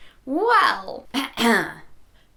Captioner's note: clears throat